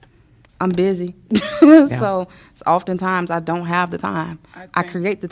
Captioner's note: laughter